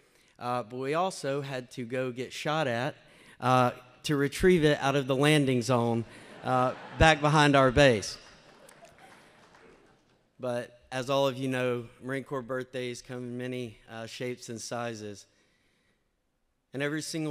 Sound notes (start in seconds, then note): 6.1 laughter